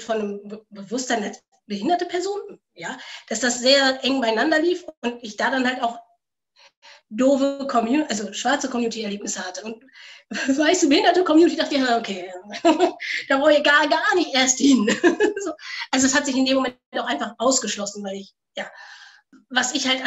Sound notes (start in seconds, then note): 14.6 laughs